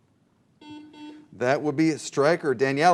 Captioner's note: buzzer